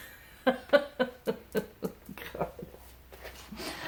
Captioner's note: chuckles